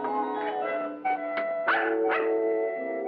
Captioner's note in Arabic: نباح الكلب